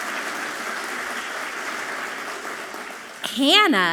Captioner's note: audience clapping loudly